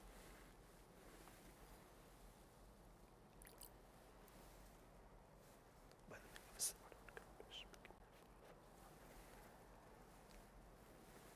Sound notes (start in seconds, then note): 6.4 whispering